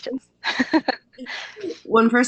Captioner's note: laughs